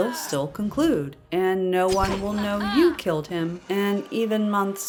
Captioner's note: arrow shot, "Ha-HA!", Bear growls